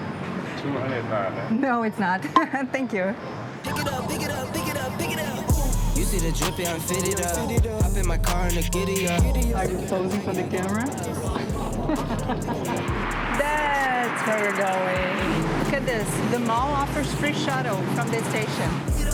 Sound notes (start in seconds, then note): 10.5 laughs